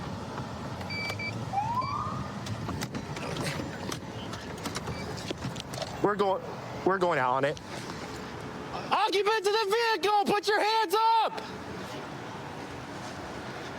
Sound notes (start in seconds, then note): 1.4 siren chirps